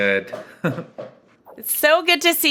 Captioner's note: laughs